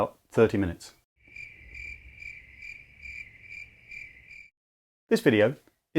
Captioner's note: crickets